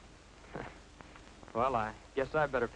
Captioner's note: chuckles